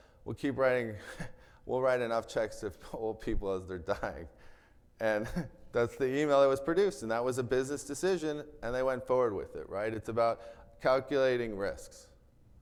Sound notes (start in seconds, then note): 1.2 chuckles; 5.1 chuckles